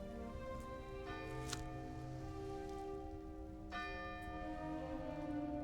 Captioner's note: church bell ringing